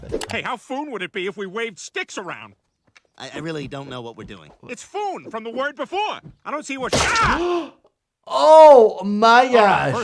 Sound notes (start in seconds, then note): 8.3 Peter screaming